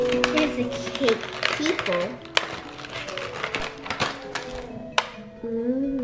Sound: melodic xylophone music; plastic crinkling

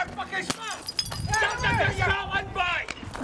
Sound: glass smashing on floor

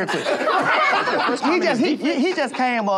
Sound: laughter

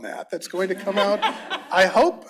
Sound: laughter

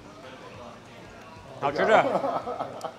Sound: laughs; speaks in foreign language

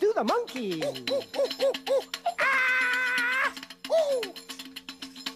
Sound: chattering

